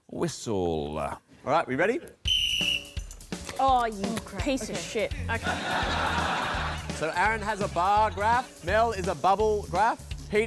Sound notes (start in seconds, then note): 2.2 blows whistle